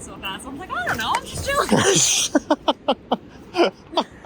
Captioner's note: laughs